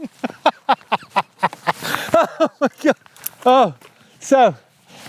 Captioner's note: laughing